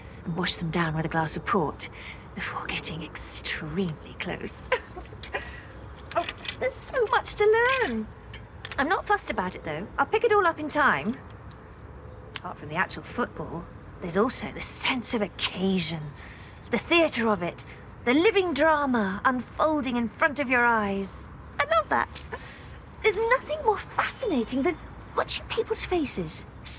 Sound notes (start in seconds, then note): 4.6 she giggles